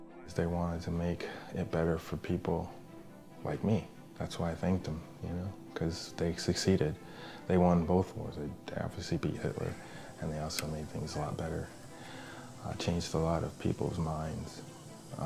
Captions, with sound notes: 'Cause they wanted to make it better for people like me. That's why I thanked em, you know, 'cause they succeeded. They won both wars, to obviously beat Hitler (whirring) and they also made things a lot better, changed a lot of people's minds